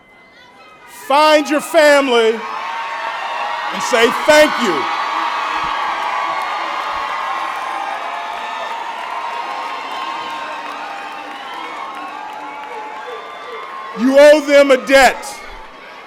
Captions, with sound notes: find your family, and say thank you. [ Applause and Cheers ] You owe them a debt.